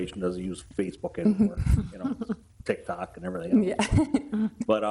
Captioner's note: laughs